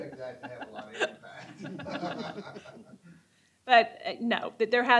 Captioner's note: laughter